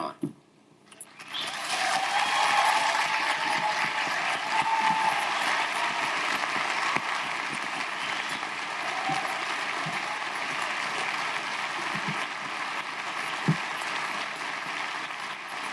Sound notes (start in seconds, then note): 1.2 audience applauding; 1.2 audience cheering